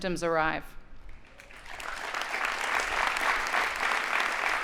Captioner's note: audience applauding